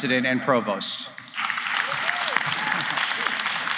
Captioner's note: applause